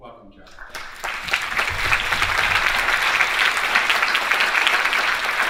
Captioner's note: audience applauding